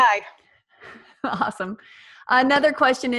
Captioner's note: laughs